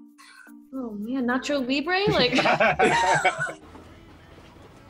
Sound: group laughs

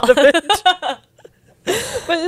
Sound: panel laughing

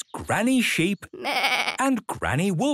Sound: bleating; roaring

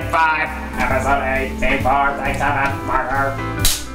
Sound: robot_voice

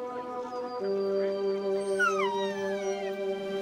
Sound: distant chattering; whimpering

